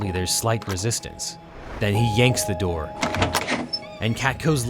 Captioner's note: door creaks